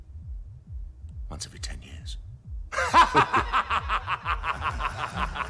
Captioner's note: laughing